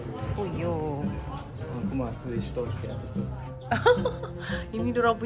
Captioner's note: laugh